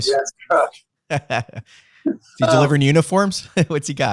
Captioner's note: laughs